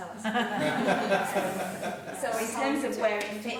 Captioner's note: laughing